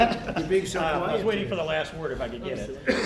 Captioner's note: laughter